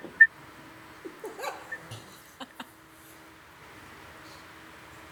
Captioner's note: women laugh